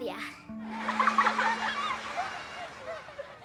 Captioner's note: laughter